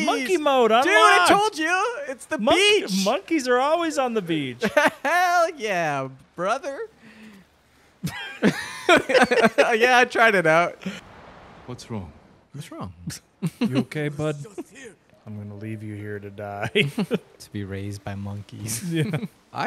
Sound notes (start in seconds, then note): 8.0 both laughing; 16.4 both Laughing; 19.1 chuckles